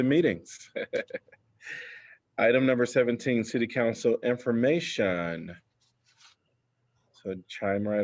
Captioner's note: laughter